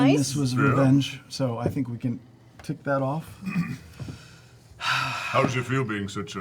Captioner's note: sighs